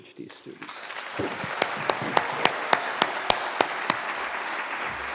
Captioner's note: applause